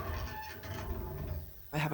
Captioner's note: pitcher pump rattles